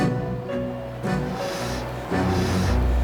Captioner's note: hah